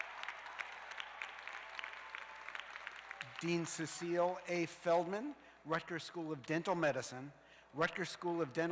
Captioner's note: cheers and applause